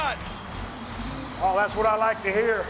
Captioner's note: engine roaring